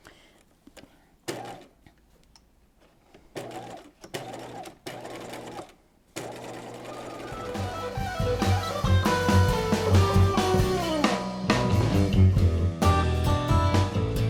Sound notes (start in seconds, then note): 3.4 sewing machine whirs; 6.9 lively music